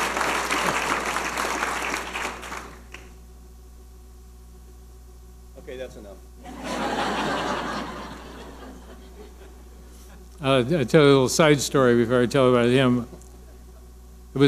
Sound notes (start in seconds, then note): 6.4 audience laughing